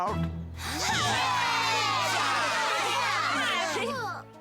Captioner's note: all cheering